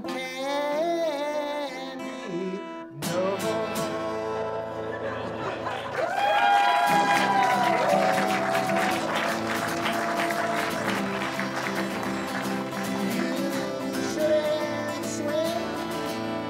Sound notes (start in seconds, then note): 13.2 audience laughs; 13.2 audience applauds; 13.3 guitar music